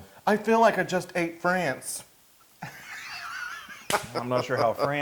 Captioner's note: laugh